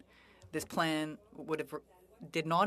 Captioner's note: speaking French